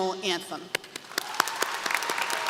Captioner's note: applause